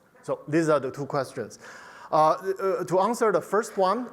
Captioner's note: none